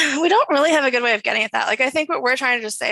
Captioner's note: none